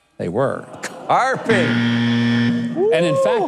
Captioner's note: buzzing